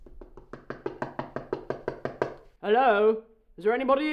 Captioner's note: door knocking